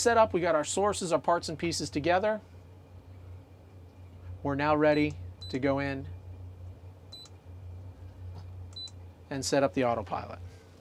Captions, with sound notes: we've got our sources of parts and pieces together. We're now ready to go in, (beep) and set up the autopilot.